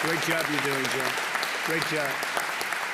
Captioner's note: applause